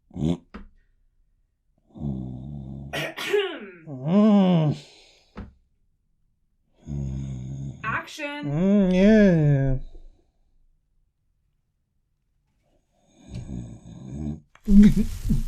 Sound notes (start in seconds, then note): 0.1 snort; 1.8 snoring; 3.9 grumbles groggily; 6.8 continued snoring; 9.7 slurring; 13.2 tap